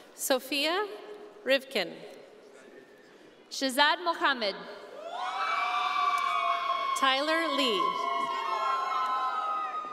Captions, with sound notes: - Sophia Rivkin. - Shazad Mohamed. (audience cheering) - Tyler Lee.